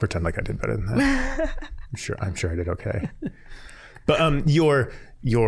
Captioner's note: laughing